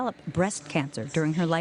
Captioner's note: women talking